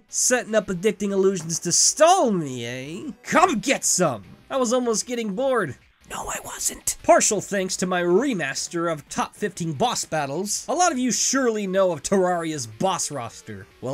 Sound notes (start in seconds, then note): 6.1 whispering